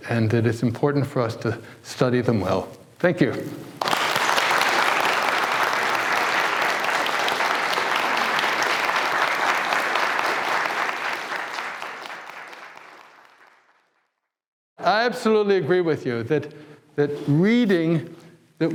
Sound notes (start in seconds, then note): 3.9 audience applauds